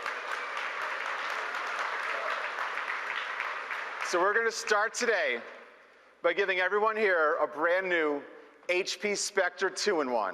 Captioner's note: applause